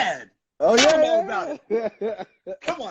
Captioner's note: laughing